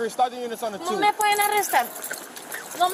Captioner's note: speaking in Spanish